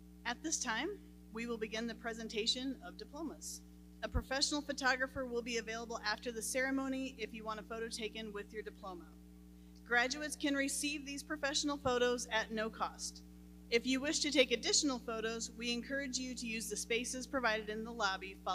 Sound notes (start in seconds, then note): none